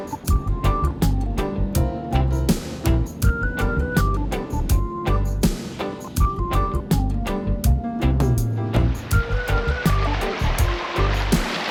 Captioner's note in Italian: Applauso